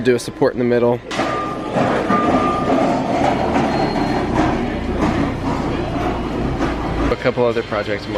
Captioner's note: chatter and beeping in background